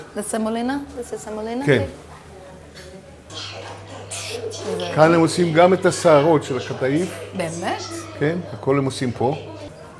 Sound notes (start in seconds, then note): 4.2 Speaking Hebrew